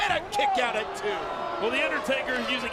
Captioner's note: crowd booing